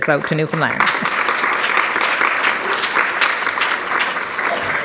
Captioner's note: audience applauds